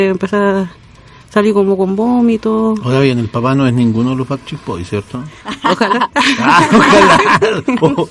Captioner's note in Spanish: risas